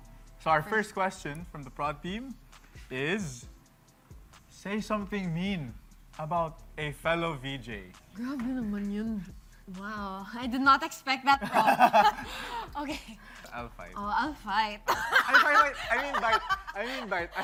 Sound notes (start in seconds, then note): 14.9 chuckling